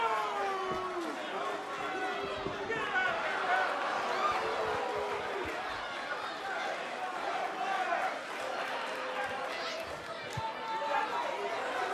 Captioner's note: cheers & boos